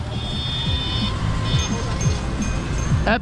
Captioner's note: beeping and honking noises